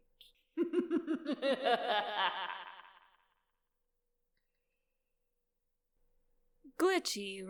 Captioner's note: narrator laughs wickedly